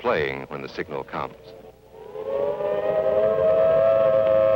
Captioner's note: sound of civil defense sirens